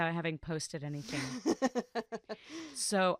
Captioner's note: laughs